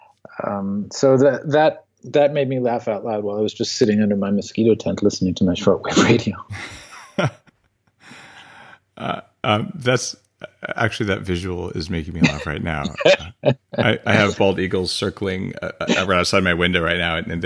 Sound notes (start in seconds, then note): 5.7 laughing; 12.0 laughs